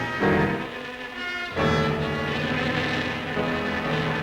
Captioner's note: buzzing